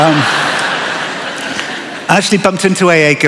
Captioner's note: laughter